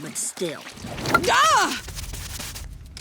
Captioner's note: groaning